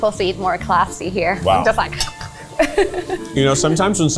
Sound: laughs

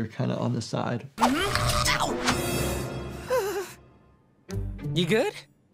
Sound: Hunter yells in pain

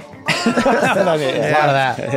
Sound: everyone laughs

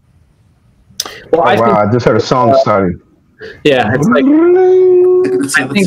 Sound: makes brrrinng! noise

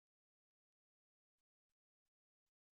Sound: none

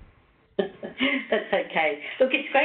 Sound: chuckles

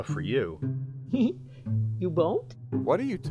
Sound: laughs

